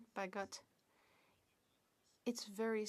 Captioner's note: speaking French